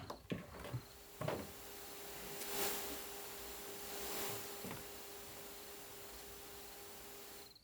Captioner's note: microphone hissing